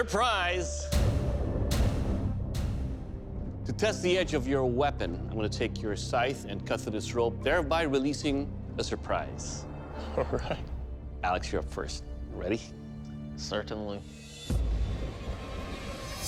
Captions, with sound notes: To test the edge of your weapon, I'm going to take your scythe and cut through this rope, thereby releasing a surprise. (LAUGHING) All right. Alex, you're up first. You ready? Certainly.